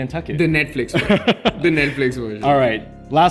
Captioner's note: laughs